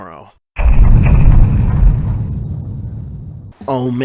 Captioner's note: Majora's Mask New Day sound effect. Pretty much two loud bangs on a drum